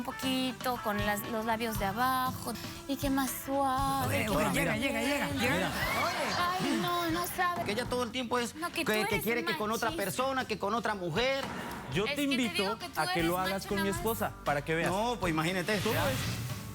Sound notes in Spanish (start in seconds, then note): 5.1 risas